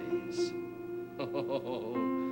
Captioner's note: chuckles